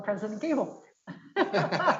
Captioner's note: laughs